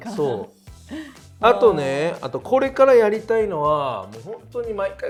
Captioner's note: laughs; laughs